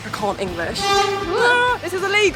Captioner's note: bus horn